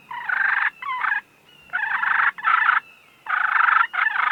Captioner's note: turkey call